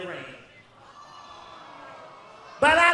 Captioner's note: audience groans